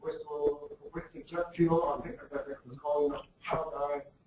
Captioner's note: speaks faintly